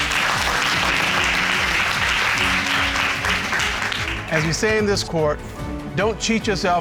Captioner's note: audience clapping